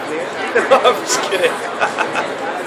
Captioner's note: laughing; laughs